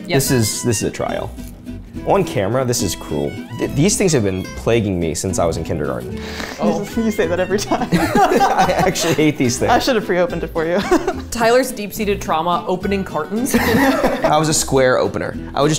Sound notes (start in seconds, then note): 7.6 all laughing; 13.5 laughing